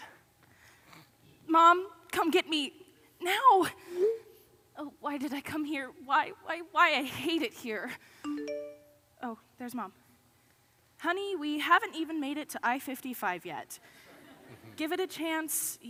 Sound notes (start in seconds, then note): 8.2 ding; 14.3 audience laughs